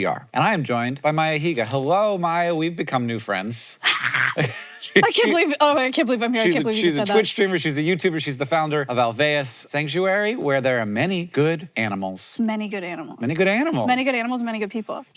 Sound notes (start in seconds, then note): 3.5 Maya growls; 3.9 Hank laughs